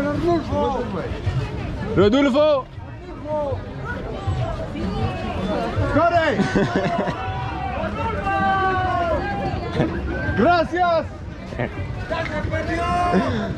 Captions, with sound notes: ARDULFO!!! -(crowd is shouting) thank you!